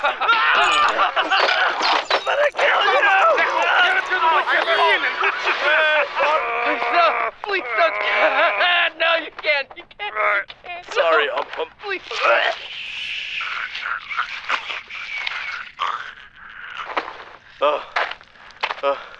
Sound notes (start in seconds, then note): 5.3 guffaws; 13.1 choking noises